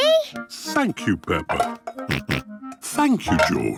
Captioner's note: snorts